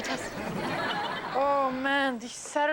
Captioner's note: audience laughs